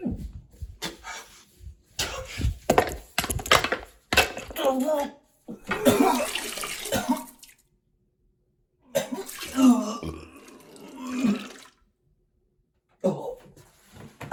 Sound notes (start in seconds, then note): 5.5 Chuck vomiting